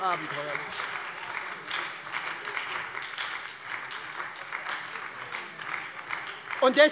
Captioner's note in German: Beifall bei der SPD und der LINKEN - Zurufe von der CDU